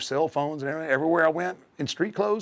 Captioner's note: none